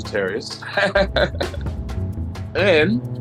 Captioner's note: laughs